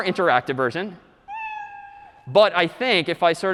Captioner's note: meow